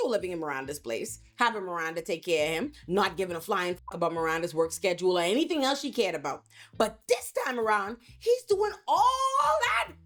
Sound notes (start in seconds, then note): 3.7 beep